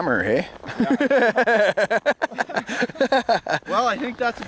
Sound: laughter

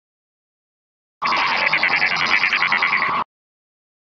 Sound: sound of radio frequency

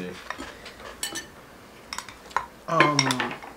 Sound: dishes clinking

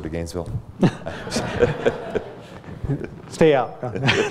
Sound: laughter

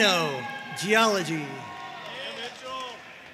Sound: audience cheering and applauding

